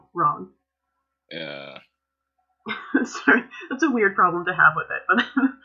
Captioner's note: laughter